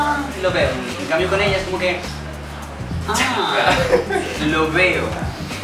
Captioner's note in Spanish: risas